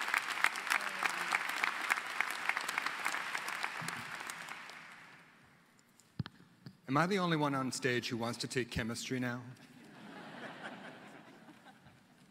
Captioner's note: applause